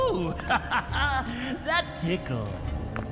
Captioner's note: laughing